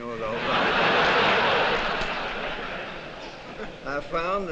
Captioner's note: laughter